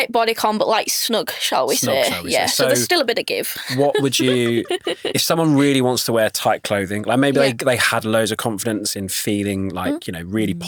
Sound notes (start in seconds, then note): 3.6 laughs